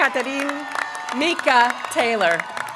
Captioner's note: applause